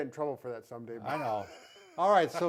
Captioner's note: chuckling